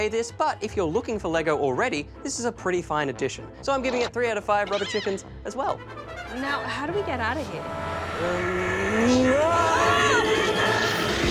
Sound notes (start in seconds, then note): 9.4 both scream